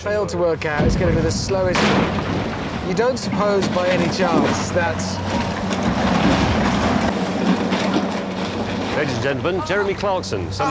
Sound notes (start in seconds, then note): 1.9 crashing